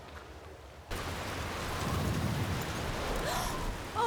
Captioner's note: wind & Rain Blasting